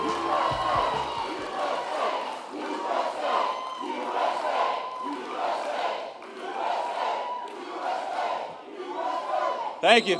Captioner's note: crowd chanting "U.S.A."